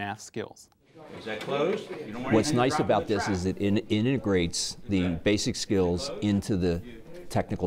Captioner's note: background discussion